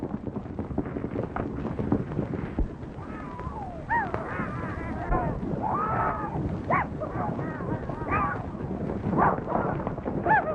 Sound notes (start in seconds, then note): 0.3 horses galloping; 4.0 whistling and corralling